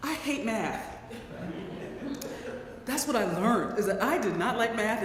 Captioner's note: laugh